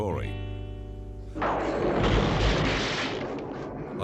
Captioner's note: thunderclap